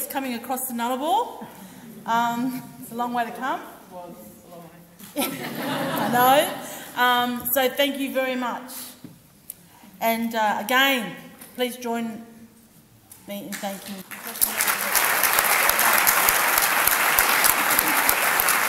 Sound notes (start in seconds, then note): 1.9 audience laughs; 4.1 faintly speaking; 5.2 audience laughs; 16.6 audience applauds